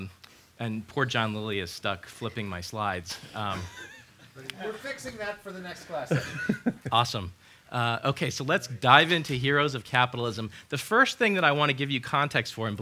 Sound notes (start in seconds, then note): 5.9 laughs